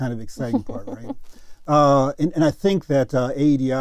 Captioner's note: laugh